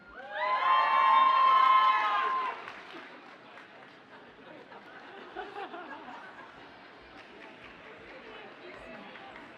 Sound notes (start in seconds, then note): 0.1 audience cheers and applauds; 5.0 audience chuckles